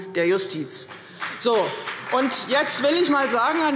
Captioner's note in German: Beifall CDU und BÜNDNIS 90/DIE GRÜNEN